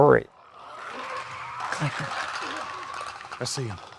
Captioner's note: zombie squeaking